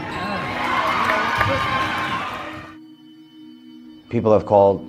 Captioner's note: students cheering